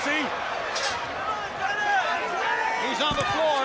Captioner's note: crowd cheering